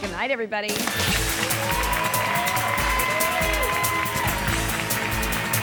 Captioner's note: audience cheers and applauds